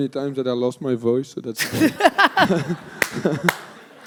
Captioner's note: audience laughter